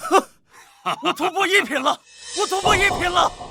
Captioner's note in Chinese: 哈哈哈